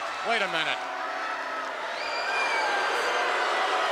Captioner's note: crowd booing